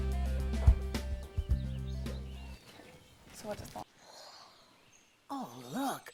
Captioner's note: birds chirping